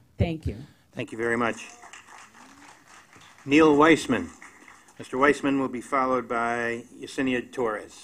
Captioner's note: applause